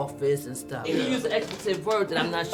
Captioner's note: woman laughing